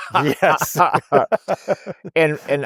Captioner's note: laughing